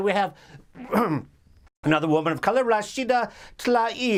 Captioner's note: clearing throat